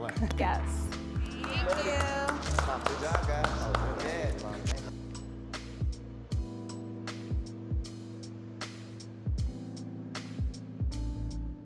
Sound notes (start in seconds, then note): 3.6 woman clapping in background; 6.3 gentle jazz music